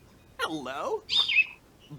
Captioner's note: chirp